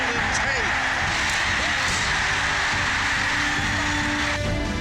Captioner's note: cheers and applause